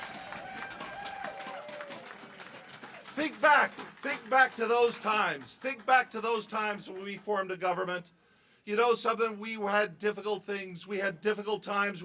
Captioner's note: cheers and applause